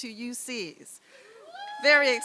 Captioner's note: cheer